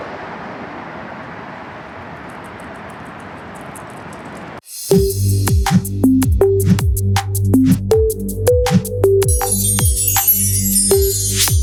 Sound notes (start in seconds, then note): 2.2 dog's nails scratch; 4.8 lighthearted electronic music